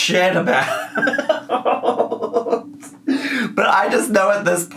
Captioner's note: laughing